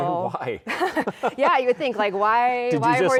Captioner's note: both chuckling